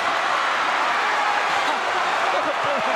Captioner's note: audience cheering